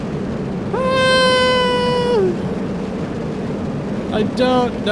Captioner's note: screaming